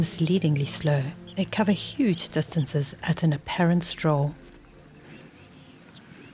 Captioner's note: animals calling